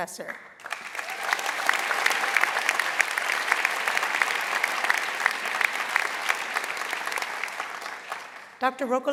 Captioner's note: applause